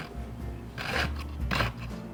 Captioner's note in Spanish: scraping